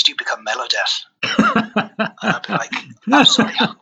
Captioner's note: laughs